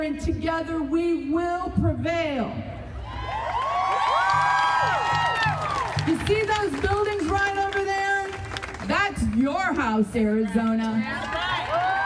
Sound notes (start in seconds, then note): 3.0 crowd cheering and applauding